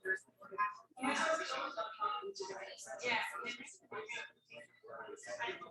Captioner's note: people chattering indistinctly